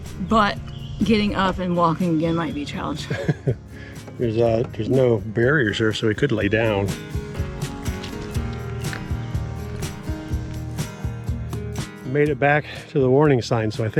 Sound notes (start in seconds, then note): 3.0 laughs; 7.3 gentle music; 7.9 leaves crunching